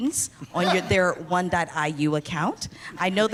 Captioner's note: laughing